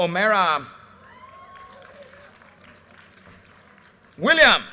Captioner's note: audience cheers and applause